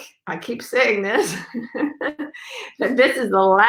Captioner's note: laughs